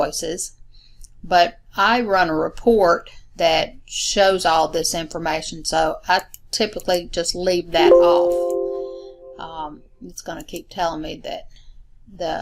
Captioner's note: chime